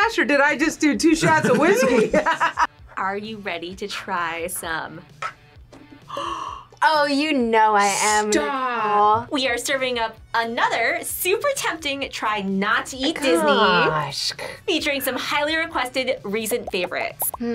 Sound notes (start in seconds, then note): 1.2 laughs; 5.9 gasps